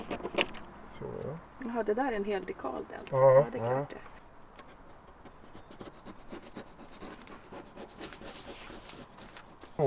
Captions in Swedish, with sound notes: så. Ja. Jaha. Det där är en hel dekal det alltså. Ja, det är klart det. [flåsar]